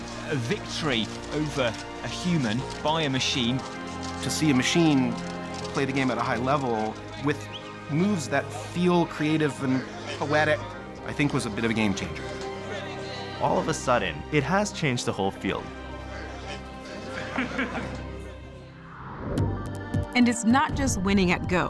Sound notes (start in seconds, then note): 16.8 laughter